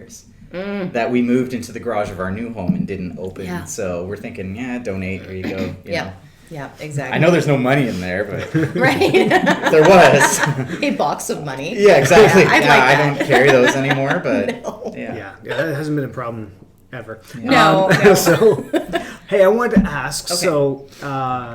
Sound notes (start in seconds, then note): 8.3 laughs; 17.6 laughs